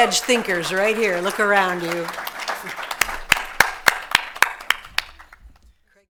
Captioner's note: audience applauding